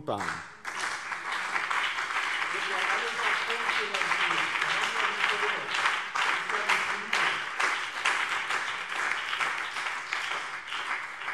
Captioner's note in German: Beifall BÜNDNIS 90/DIE GRÜNEN und CDU